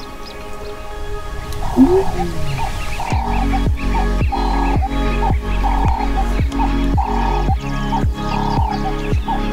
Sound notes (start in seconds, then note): 1.6 lion roaring; 4.3 birds chirping; 4.3 upbeat music continues